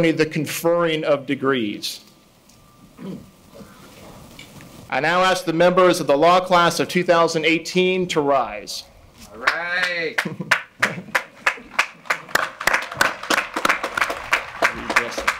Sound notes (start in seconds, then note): 9.4 clapping; 12.7 audience applauding